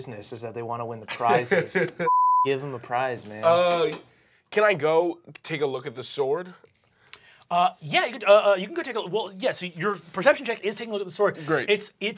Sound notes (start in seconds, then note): 2.0 beep